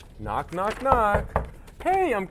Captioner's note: knocking